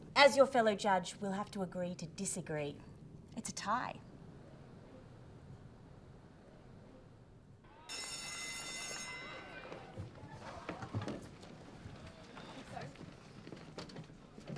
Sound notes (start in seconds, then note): 7.8 school bell rings; 9.2 light chatter